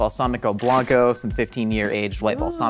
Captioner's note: cash register dings